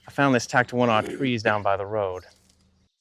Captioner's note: birds chirp